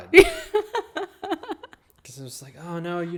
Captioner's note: laughing